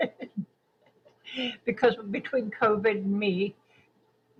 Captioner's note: laughing